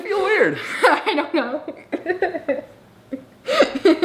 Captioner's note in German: lacht